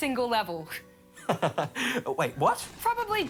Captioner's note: laughs